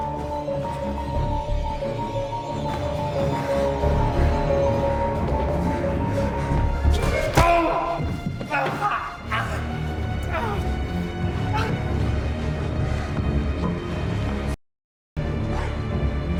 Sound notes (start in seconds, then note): 0.8 suspenseful music; 7.0 mallet thudding; 7.3 dramatic music; 10.2 man groans; 12.1 suspenseful music